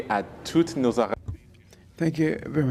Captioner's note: speaking in French